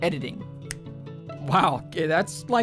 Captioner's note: snap